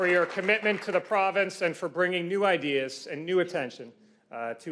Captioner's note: applause